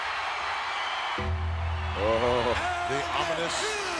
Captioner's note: crowd cheers; bell tolls